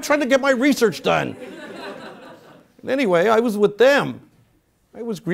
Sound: laugh

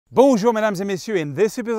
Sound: speaking foreign language

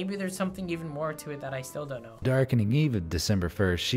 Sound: voice-over

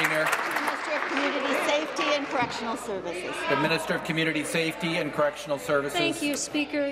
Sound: applause

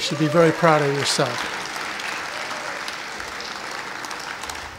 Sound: applause

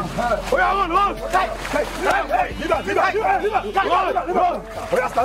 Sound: all shouting in foreign language

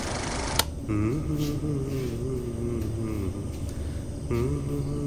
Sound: hums a song from Premam movie

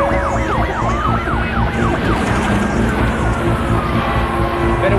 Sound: siren blaring

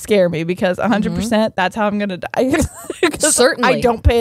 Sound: laughs

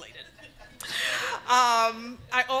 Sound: audience laughing

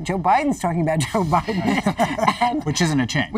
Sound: laughter

